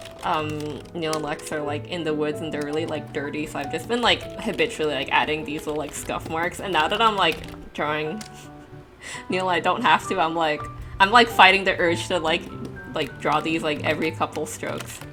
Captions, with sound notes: Um, Neil and Lex are like in the woods and they're really like, dirty, so I've just been like, habitually adding these like, little scuff marks, and now that I'm drawing... *chuckle* Neil, I don't have to, I'm like... I'm like fighting the urge to like, like, draw these like, every couple strokes.